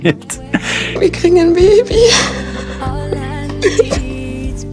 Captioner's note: crying